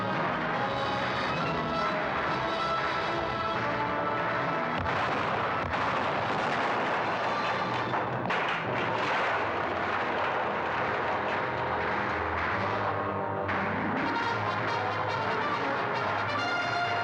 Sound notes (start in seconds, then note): 0.0 dramatic orchestral music; 0.0 sounds of battle; 4.8 cannons firing; 6.2 wall crashing in; 11.8 gunfire